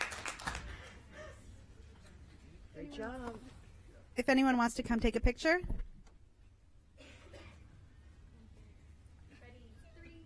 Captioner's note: applause